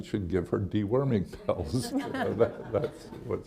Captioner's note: chuckles; laughter